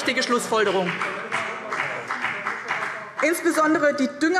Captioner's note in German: Beifall